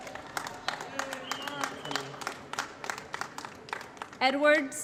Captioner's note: applause